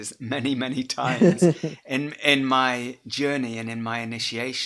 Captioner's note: chuckles